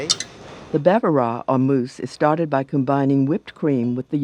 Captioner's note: voiceover